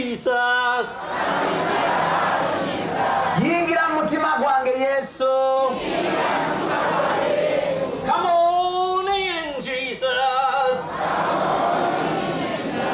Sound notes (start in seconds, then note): 0.2 audience repeats in english; 4.7 audience repeats in local language; 10.4 audience repeats in english